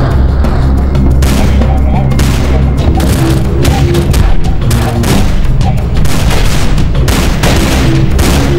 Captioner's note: gunfire